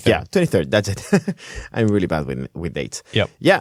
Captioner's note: laughing